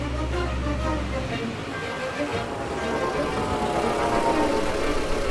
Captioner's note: engine noise